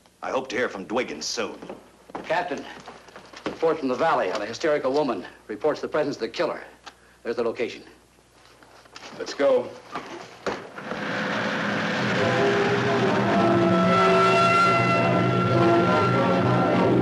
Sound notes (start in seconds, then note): 10.9 car rumbling; 13.3 siren wails; 13.3 suspenseful music